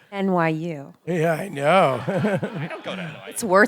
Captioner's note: audience laughing